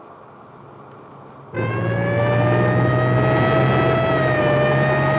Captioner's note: sirens wailing